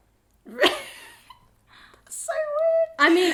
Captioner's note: laughs